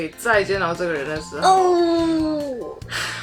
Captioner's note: sigh